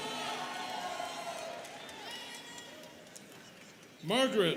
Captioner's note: students cheering